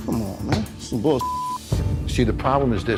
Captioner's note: beep